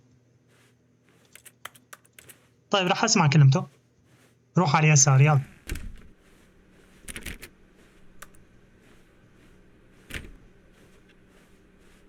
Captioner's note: clock ticking